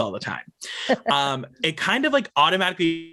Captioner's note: laughs